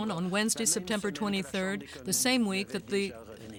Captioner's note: speaking French